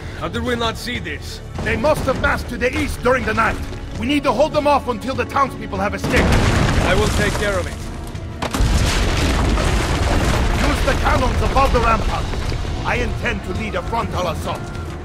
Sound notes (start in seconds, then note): 8.9 building crumbling